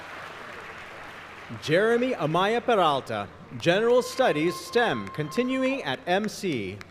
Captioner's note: applause